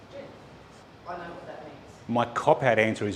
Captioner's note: man speaking